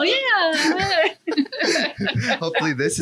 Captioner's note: laughs